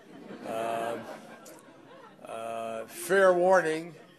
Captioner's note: laughter